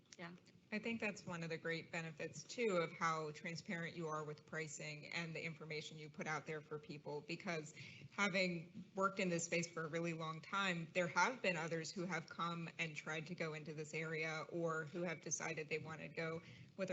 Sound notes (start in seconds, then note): none